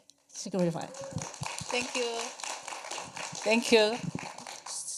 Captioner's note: applause